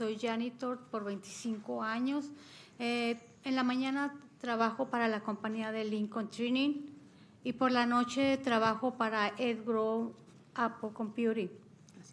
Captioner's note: speaking spanish